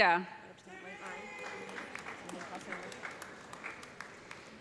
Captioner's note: cheers and applause